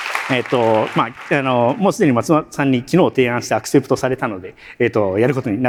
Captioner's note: applause